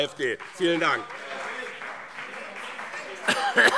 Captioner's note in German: Beifall BÜNDNIS 90/DIE GRÜNEN und CDU - Zurufe AfD